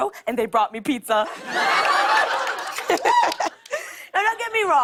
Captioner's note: laughter